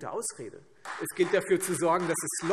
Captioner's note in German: Beifall Freie Demokraten